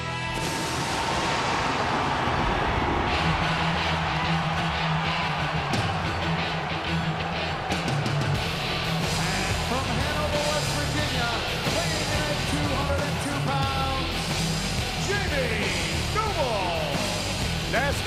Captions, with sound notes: (thunder rumbling) (upbeat rock music) From Hanover, West Virginia, weighing in at 202 pounds, Jamie Noble!